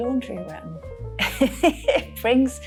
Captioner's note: laughing